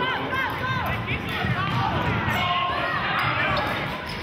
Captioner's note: yelling